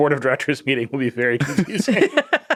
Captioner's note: laughing